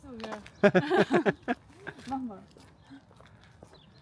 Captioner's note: both laugh